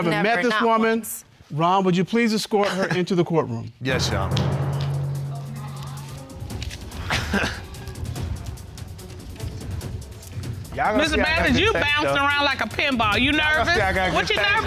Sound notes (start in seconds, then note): 6.8 chuckles nervously